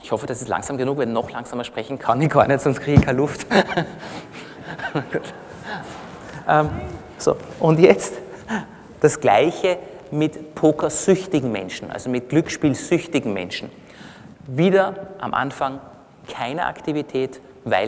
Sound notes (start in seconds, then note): 6.4 laughter from the audience; 6.6 laughs